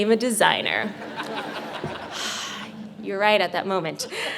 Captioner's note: audience laughing